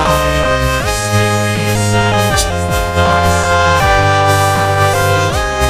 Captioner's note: men cheering